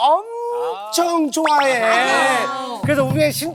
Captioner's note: excited